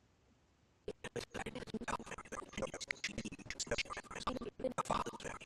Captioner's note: audio skipping